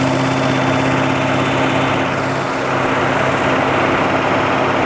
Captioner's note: engine continues rumbling